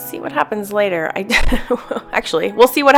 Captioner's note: laughs